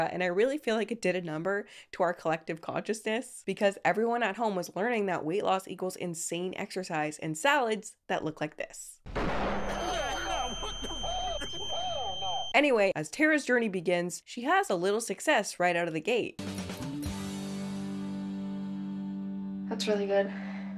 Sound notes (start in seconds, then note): 9.5 high frequency whine rings; 16.4 upbeat music